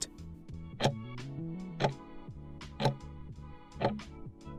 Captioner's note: timer ticking